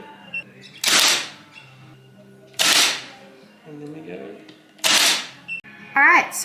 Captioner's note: nail gun fires off more nails